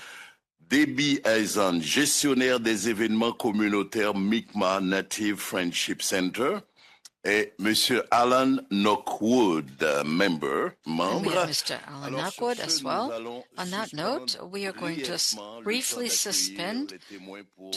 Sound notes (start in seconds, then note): 10.3 speaking French